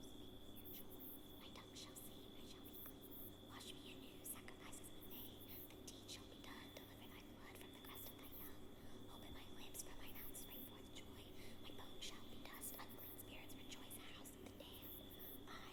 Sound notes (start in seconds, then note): 0.8 whispers